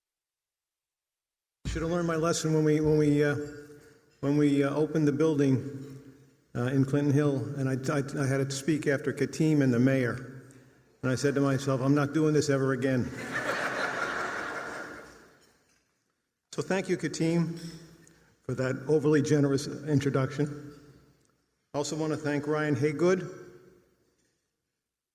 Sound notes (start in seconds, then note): 13.1 laughter